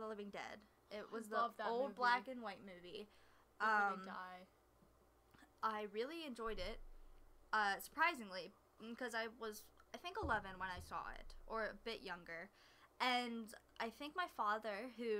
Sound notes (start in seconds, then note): none